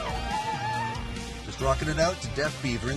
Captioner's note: chatter & laughing